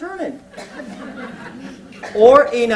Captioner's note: laughter